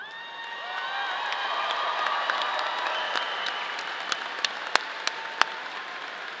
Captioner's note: audience applauding; audience cheering